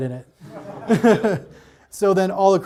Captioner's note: audience laughs